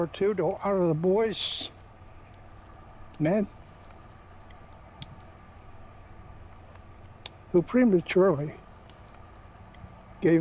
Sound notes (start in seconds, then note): 5.9 clicks tongue; 8.1 clicks tongue